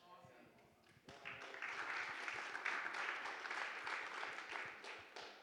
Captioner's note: audience applauding